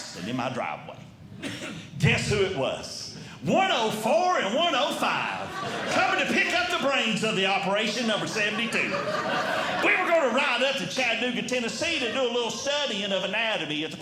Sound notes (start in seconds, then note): 9.1 audience Laughing